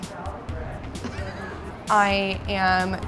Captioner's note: man laughs